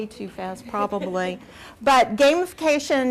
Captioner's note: laughs